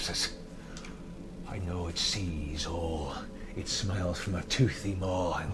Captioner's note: none